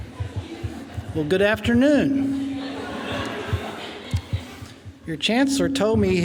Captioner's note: laughing